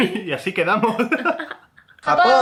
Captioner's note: laughs